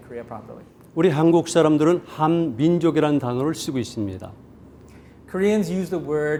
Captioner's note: speaking in Korean